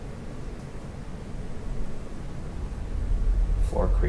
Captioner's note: creaking